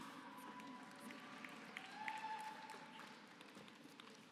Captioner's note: applause